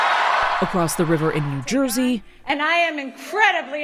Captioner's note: cheering